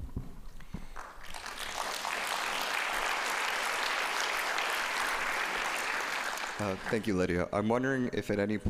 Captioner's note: applause